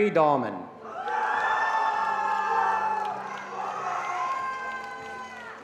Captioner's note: attendees cheering and applauding